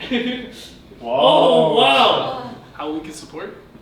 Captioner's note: laugh